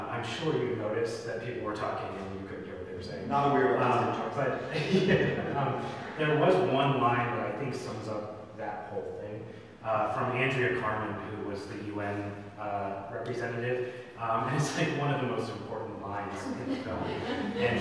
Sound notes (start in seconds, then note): 4.6 laughs